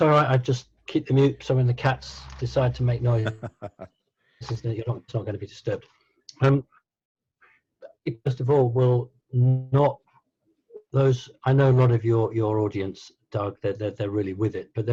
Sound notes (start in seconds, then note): 3.0 laughing